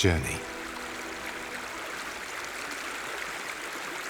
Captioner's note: water sloshes